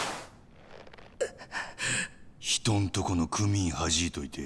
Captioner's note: laughing